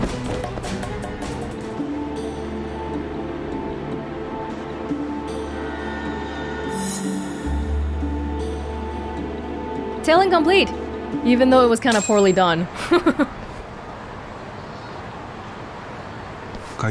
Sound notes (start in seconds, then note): 12.7 chuckles